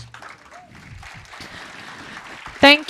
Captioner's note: audience claps